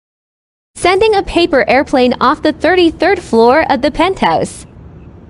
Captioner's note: tts voice